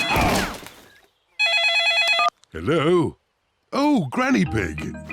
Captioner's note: phone rings